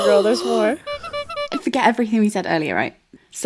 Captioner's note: clown noise